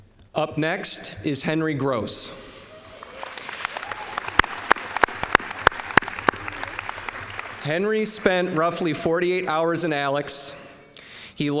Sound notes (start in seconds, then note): 2.8 applause